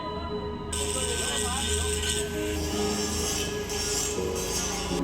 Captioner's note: people chattering; saw buzzing